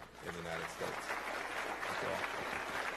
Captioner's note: applause